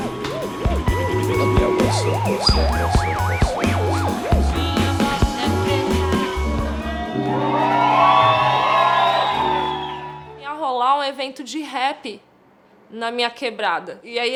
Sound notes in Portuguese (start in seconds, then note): 6.9 plateia aplaudindo